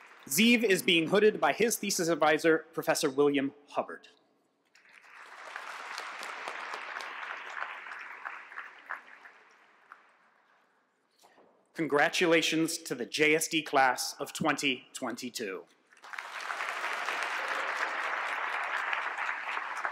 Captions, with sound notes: Ziv is being his thesis advisor, Professor William Hubbard. [APPLAUSE] Congratulations to the JSD class of 2022. [APPLAUSE]